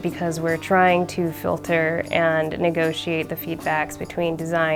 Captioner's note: none